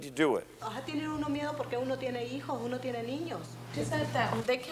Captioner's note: speaking Spanish